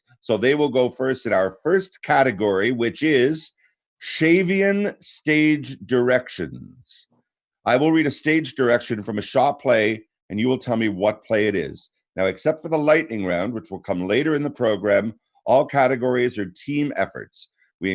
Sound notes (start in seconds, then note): none